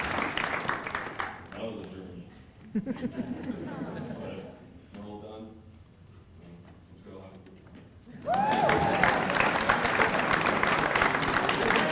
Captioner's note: applause